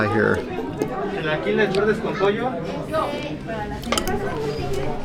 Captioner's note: background chatter